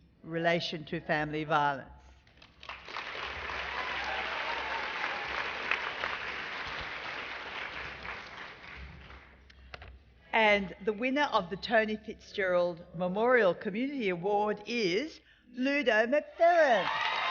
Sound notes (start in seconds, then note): 4.9 applause